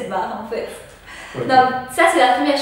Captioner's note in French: rire